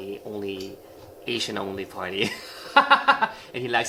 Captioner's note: laughing